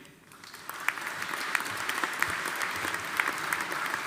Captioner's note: audience applauding